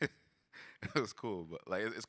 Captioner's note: laughs